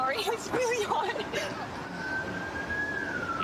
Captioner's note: siren wailing